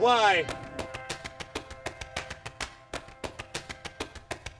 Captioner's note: wings fluttering